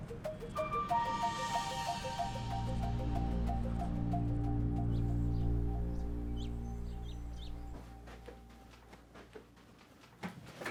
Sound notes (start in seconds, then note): 2.9 ominous electronic accent; 5.3 birds chirping